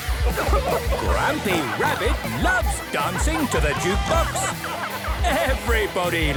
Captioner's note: shouting